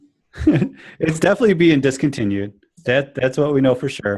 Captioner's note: laughs